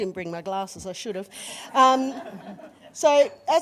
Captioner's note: laughter